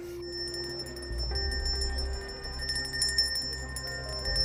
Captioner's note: bell ringing